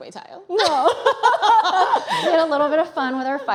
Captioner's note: laughter